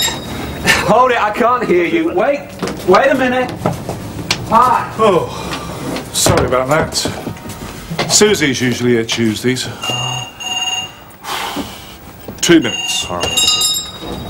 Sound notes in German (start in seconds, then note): 9.7 Das Telefon klingelt